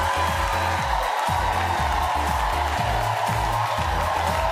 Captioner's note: audience cheering; upbeat music